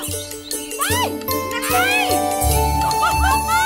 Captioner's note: Girls shouting playfully